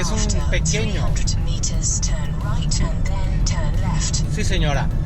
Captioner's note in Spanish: Voz del GPS